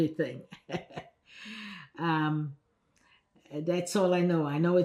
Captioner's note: laughing